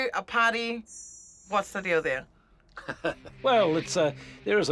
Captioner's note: laughs